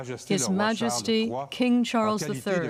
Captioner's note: speaking French